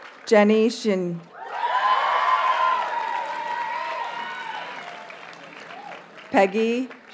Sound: audience cheers and applauds

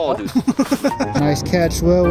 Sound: laughing

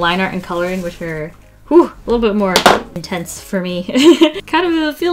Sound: laughs

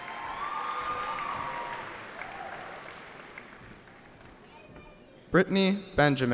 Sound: cheering

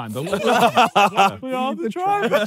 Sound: laughing

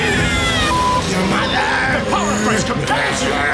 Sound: beeping

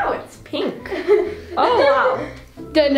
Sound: laughing

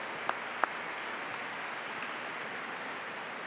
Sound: applause

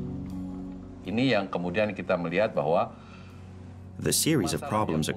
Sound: speaking indonesian

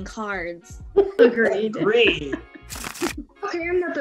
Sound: laughs

